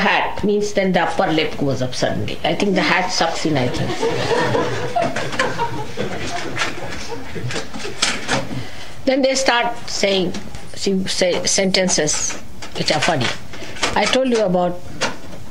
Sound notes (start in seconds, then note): 7.5 laughter